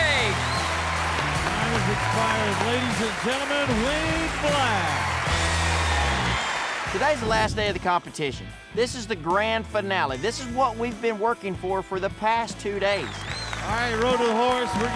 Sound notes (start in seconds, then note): 0.0 crowd cheers; 5.8 crowd cheers, claps